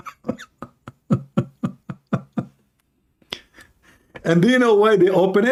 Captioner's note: Ketawa